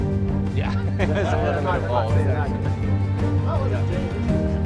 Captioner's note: group chats and laughs; laughing; uplifting orchestral music